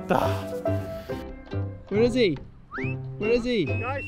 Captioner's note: sighs